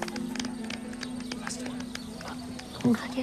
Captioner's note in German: flüstert